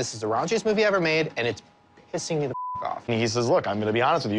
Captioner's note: beep